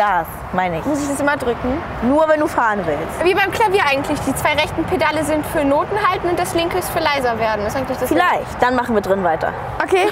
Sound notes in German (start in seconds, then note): none